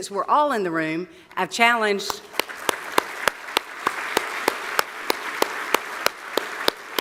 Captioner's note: applause